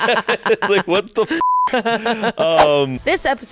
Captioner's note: everyone laughs; beep